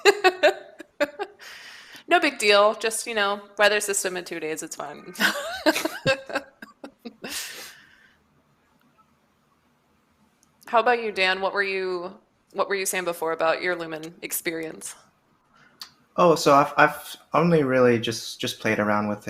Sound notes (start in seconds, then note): 0.0 laughs; 5.1 laughter